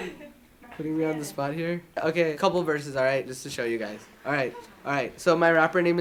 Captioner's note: students murmur